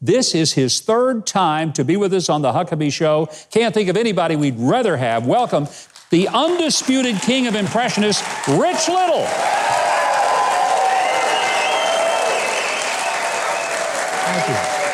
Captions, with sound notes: this is his third time to be with us on the Huckabee show. Can't think of anybody we'd rather have welcomed the undisputed king of impressionist, Rich Little. (crowd cheering) (crowd clapping)